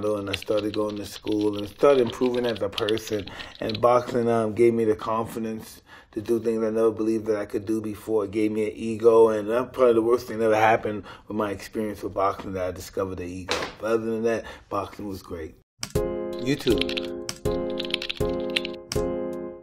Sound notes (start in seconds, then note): 15.8 bright music; 16.4 typing